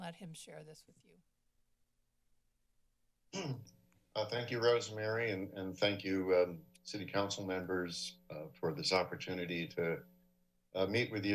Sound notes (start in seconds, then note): 3.3 clears throat